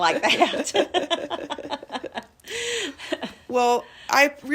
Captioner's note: laugh